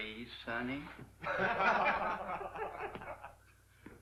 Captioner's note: laughter